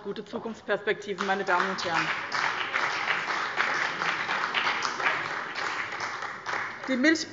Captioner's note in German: Beifall bei dem BÜNDNIS 90/DIE GRÜNEN und der CDU